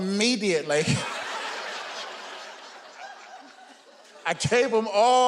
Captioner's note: audience laughing